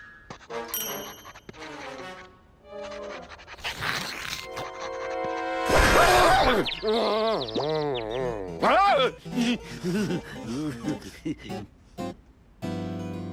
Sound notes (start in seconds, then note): 5.2 furious whirring; 5.7 groaning; 6.1 nervous giggles